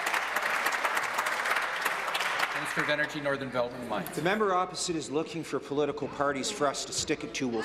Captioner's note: applause